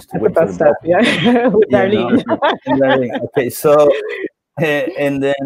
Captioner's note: laughs